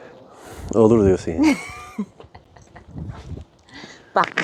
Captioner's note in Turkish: kahkaha